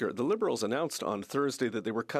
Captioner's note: speaking French